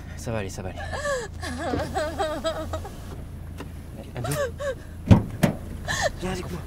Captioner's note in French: pleurs